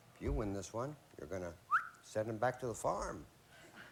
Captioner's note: whistles